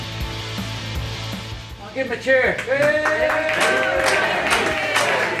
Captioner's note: crowd cheers